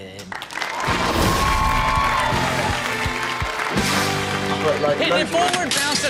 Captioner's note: audience cheers; upbeat music